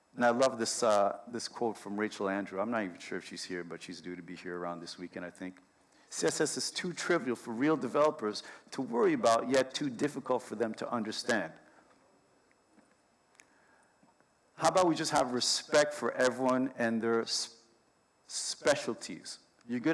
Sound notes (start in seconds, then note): none